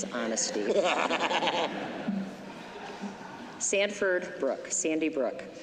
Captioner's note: laughter